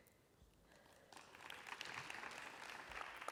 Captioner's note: applause